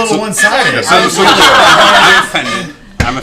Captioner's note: laughter